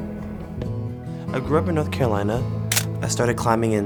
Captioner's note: soft music; camera clicks